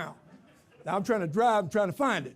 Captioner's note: audience laughs